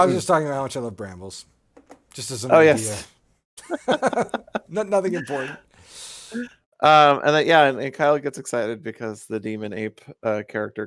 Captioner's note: laughing